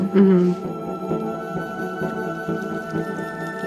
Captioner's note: river flowing